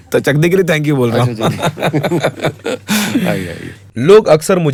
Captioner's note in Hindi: हंसी